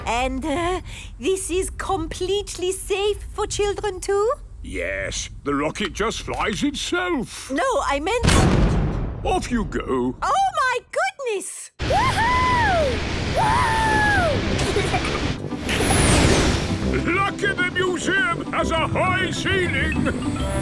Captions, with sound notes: And, er... this is completely safe for children too? - Yes. The rocket just flies itself. - No, I meant-- - (blasts off) - Off, you go! - Oh, my goodness! - Wooohooo!! - (rocket thrusting) - Lucky the museum has a high ceiling!